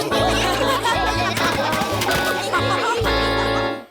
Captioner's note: laughter